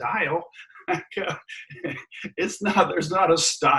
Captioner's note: chuckles